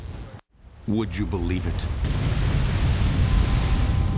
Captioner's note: voiceover